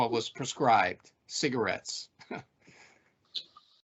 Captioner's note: chuckling